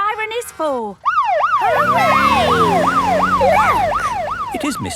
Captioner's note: siren